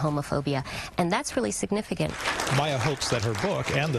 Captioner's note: audience applause